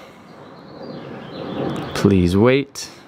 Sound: birds chirping

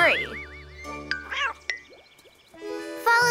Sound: cat meows

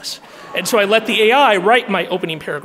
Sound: audience laughing

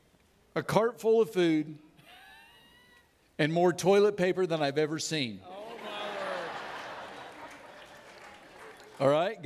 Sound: audience laughing

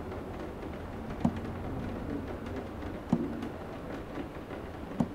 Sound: hand knocking

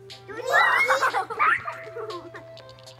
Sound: laughing

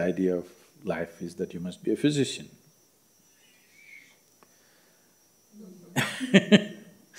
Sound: laughs

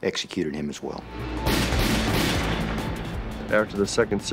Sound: gunshots

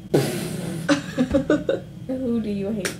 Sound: laughs

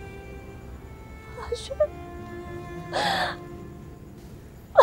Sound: cries

